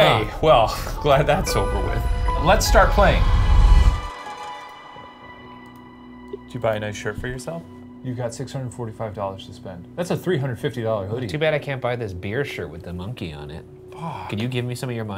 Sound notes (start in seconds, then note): none